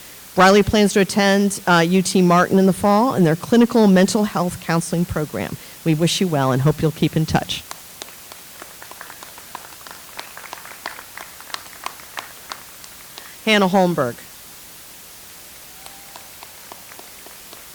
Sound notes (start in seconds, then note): 7.6 audience applauds